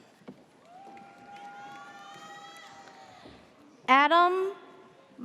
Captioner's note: audience cheers